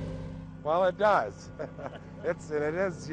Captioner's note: laughs